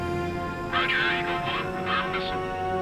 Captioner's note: colonel on radio